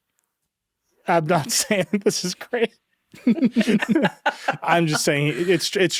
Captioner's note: laughing